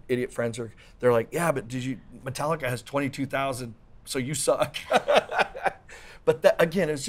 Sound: laughs

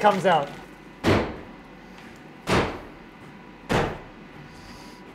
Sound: banging

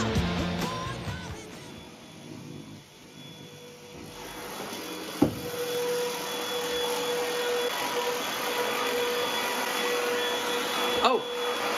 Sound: vacuuming sounds

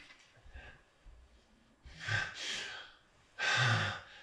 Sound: Bruce gasps

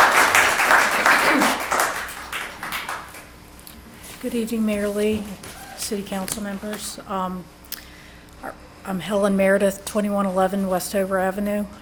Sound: applause

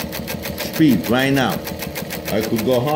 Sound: needle punching

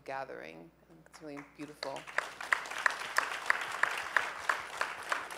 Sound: applause

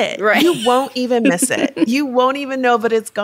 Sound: chuckles

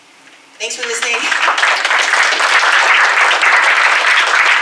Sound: applause

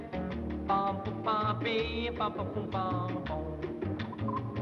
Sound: humming

